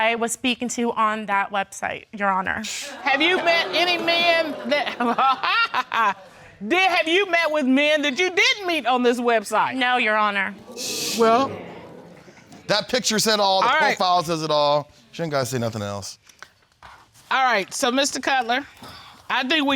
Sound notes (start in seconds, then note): 5.7 chuckles